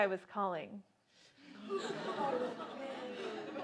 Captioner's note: laughter